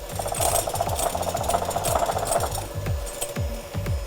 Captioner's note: mixer whirring